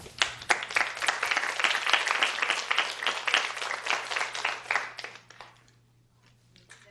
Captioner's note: clapping